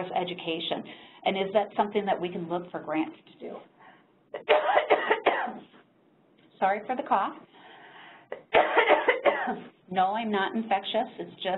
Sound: coughs

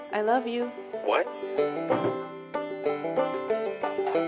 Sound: phone hangs up

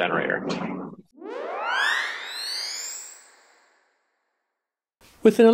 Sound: high pitched whirl

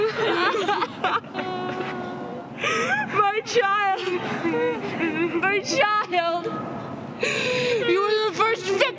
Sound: crying

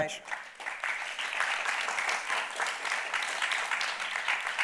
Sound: crowd applauding

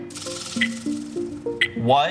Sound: buzzer

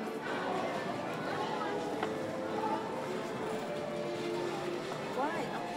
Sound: crowd enters theater

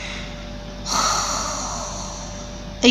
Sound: oxygen escaping

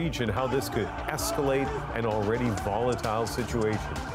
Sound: chanting

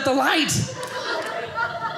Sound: audience laughing

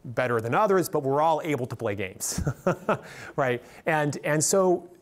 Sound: laughs

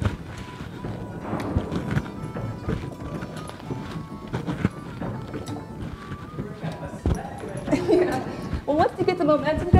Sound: sounds of moving jail

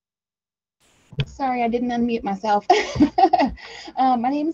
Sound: laughing

